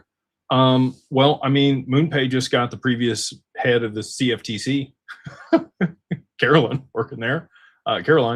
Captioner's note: laughter